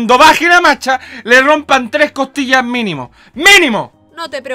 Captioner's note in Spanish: inhales